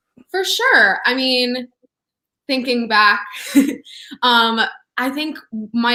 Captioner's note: laughs